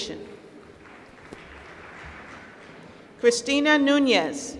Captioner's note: applause